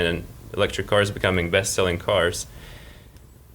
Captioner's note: none